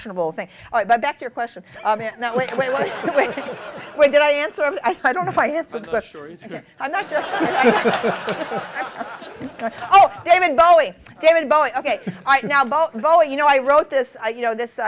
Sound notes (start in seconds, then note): 1.8 laughter; 13.7 laughter